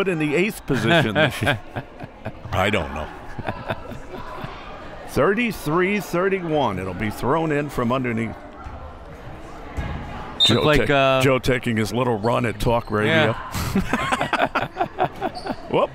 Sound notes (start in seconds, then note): 3.4 laughs; 10.4 whistle; 13.5 laughs